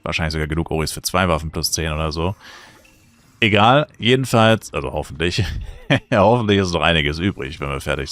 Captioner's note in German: gelächter